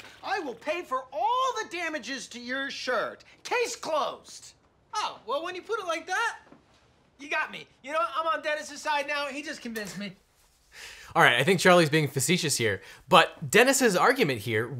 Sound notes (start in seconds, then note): none